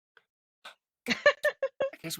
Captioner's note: laughing